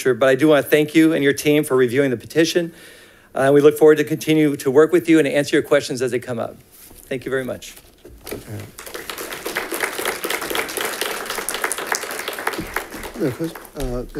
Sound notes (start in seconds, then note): 8.4 congregation claps